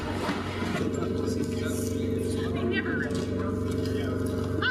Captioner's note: machinery rumbling; voiceover